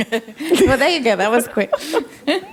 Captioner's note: laughs